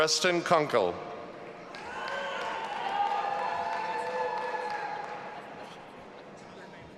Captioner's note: audience applauding and cheering